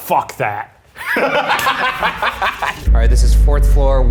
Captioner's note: laughter